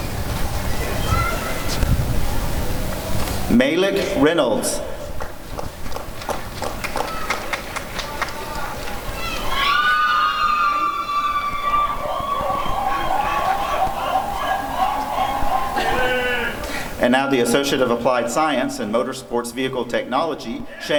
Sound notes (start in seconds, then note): 6.3 applause and cheering